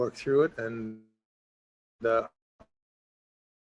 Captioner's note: audio cuts out